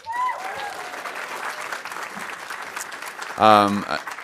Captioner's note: audience applauding